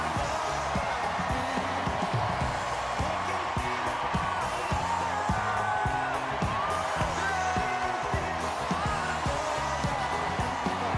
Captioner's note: cheers and applause